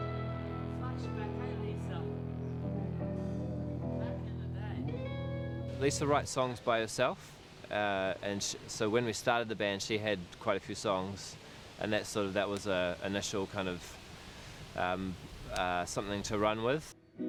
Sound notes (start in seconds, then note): 0.0 soft music; 1.7 soft chatter